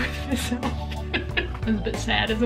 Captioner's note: laughing